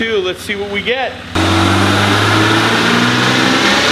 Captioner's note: engine accelerates